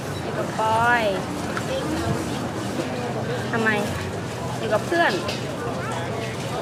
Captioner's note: thai